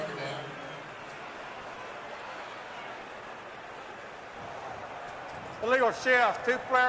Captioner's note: stadium announcements